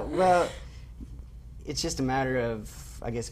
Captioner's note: laughing